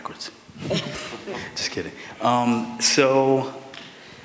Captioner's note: laughter